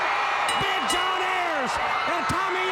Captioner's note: crowd cheering; bell rings